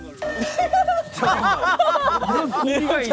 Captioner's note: bursts into laughter